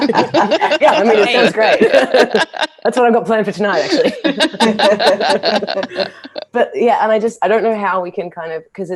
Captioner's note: laughter; laughter